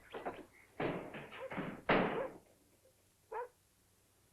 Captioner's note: doors bang open